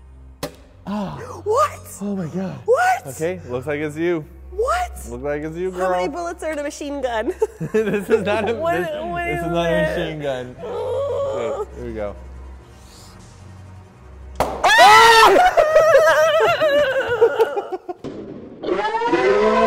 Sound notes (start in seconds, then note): 12.7 pulls trigger, balloon pops; 14.6 screaming and laughter